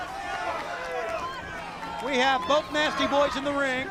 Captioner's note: crowd chatter